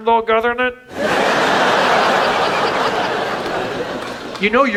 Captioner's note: audience laughs